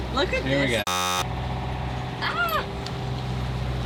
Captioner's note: electronic beeping